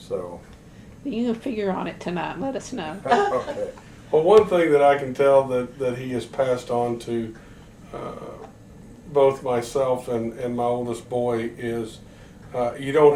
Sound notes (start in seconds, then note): 3.0 laughter